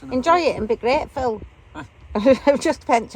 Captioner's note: laughing